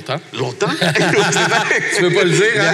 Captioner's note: laughs